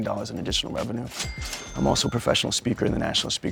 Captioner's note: register chings